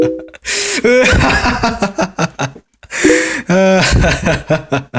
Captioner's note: bwahahah